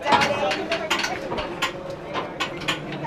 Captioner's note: turnstiles clanging; people chattering